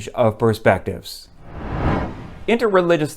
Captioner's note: low woosh sound